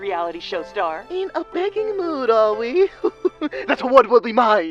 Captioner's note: laughs